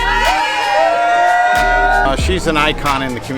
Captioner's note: group screaming